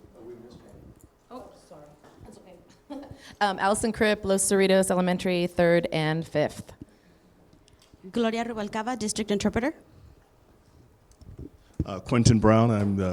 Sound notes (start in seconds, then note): 2.8 laughs